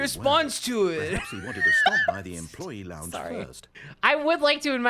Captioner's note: laughs, struggling to stay in character